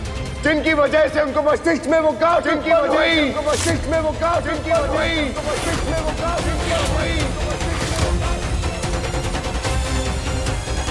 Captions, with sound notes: That's what caused the tumour in his brain! [voice echoing] [intense music]